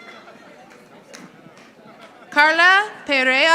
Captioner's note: audience applauding